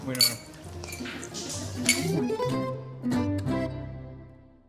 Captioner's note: silverware clinking